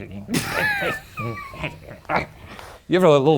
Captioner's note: laughs